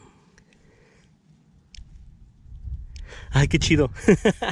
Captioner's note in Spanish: sonido click, click